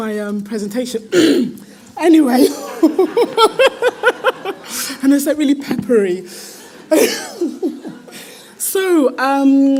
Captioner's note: laughs